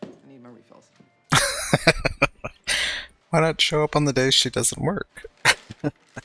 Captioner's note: laughing